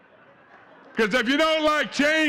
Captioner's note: audience chattering and laughing